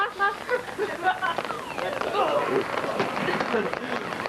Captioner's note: beeping